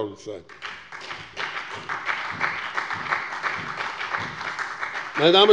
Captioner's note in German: Beifall bei dem BÜNDNIS 90/DIE GRÜNEN und bei Abgeordneten der SPD